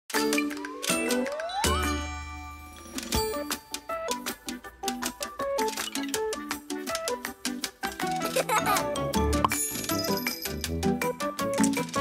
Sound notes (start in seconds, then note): 0.0 playful music; 8.1 laughing